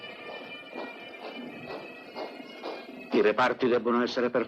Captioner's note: boots marching